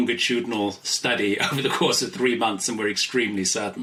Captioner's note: laughs